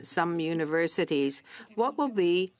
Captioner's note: speaking French